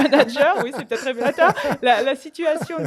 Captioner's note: laughter